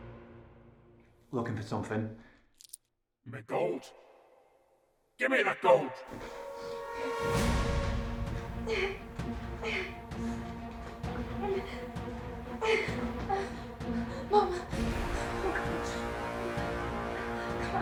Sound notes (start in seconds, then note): 6.7 suspenseful music; 8.9 Tilly grunting